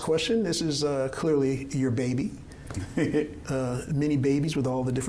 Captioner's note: chuckling